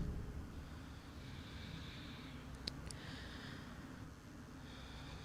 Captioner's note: gasps